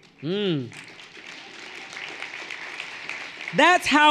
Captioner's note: everyone applauding lightly